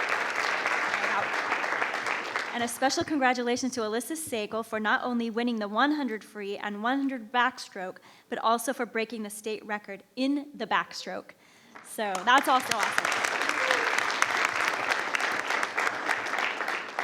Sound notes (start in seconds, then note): 0.0 crowd clapping; 13.3 crowd clapping